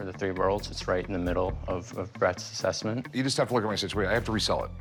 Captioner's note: none